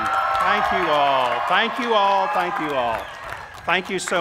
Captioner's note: cheers